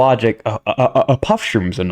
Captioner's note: stutter Moment in the background